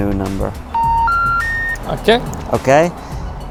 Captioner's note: phone beeps